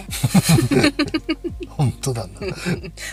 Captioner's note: laughs